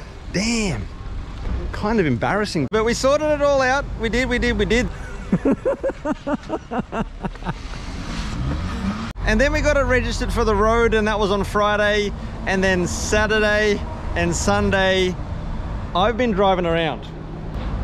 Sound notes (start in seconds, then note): 4.8 laughing hysterically